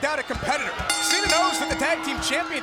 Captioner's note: bell ringing